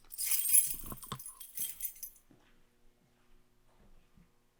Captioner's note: keys clanging